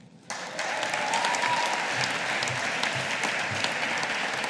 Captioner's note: audience applauding